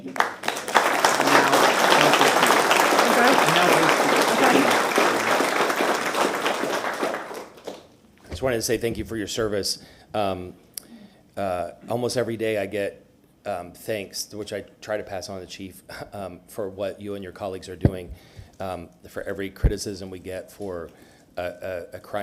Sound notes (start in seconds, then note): 5.7 applause